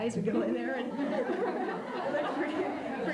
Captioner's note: laughter